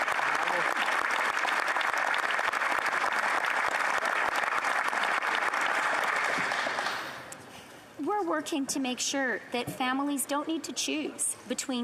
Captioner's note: applause